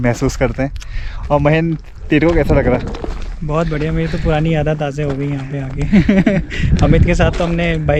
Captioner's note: laughs